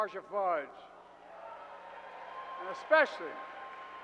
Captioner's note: applause